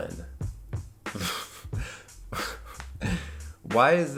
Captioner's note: laughs